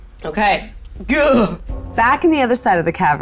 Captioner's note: shudders